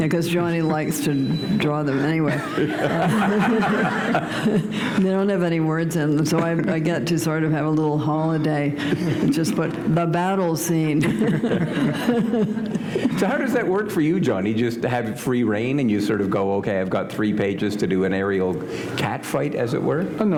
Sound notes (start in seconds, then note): 2.2 laughter